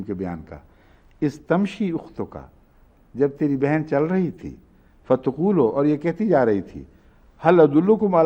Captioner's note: Arabic